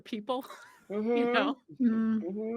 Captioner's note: giggling